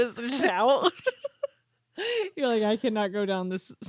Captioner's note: both laughing